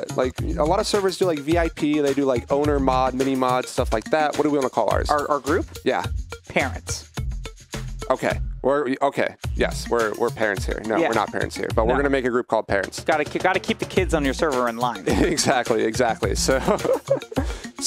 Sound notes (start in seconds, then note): 16.3 laughing